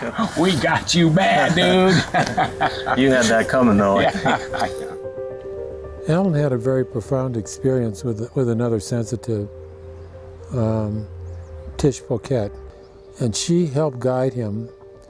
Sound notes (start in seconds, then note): 4.3 both laugh; 5.7 gentle music